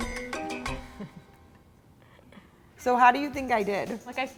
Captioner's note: laughs